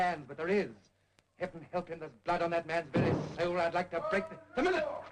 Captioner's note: downstairs door bangs open